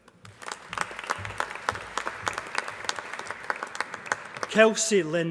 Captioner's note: applause